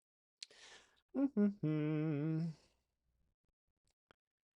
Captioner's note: hums